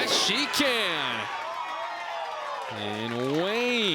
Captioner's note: crowd cheers and applauds